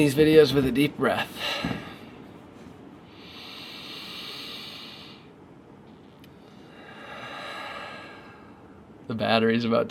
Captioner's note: breathes deeply